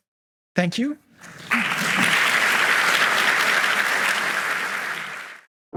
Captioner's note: audience clapping